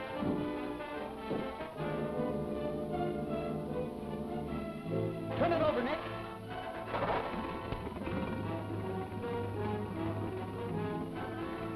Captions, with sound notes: (tense music) - Turn it over, Nick. (motor revving) (tense music)